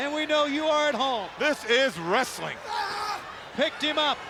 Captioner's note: wrestlers grunting